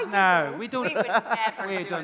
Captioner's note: laughing